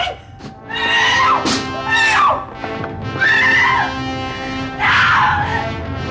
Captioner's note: dramatic music; Michelle screaming